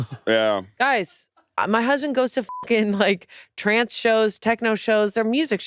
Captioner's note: crew laughing; beep